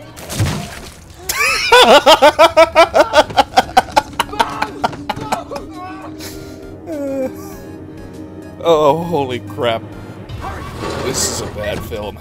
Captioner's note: hysterical laughter